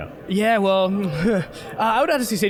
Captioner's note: chuckling